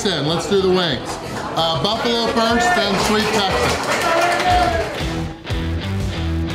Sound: crowd clapping and cheering

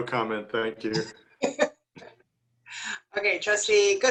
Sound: laughter

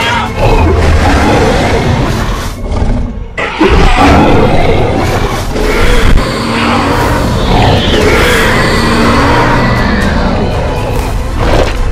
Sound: Indominus roars

